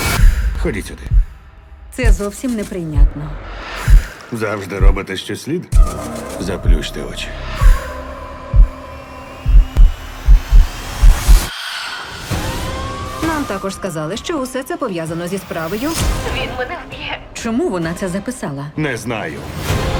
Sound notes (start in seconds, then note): 9.3 deep breathing; 9.3 music intensifies